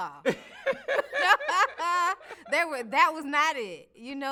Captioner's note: both laughing